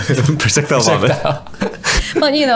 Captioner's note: laughter